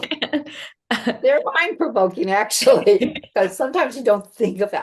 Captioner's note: laughter